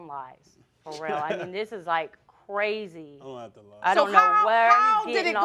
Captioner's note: laughing